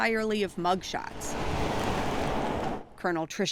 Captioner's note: car cruising